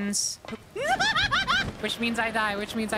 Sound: panic Noises

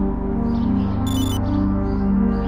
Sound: ear-comm beeps

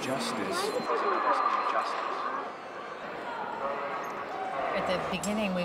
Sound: man, through radio speaker

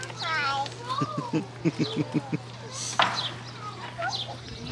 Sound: laughs

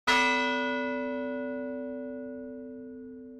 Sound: bell tolling

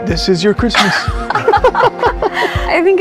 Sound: laughs

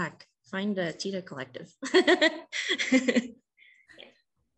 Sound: laughs

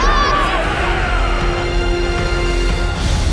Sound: all cheering

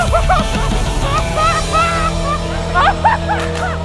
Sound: laughter

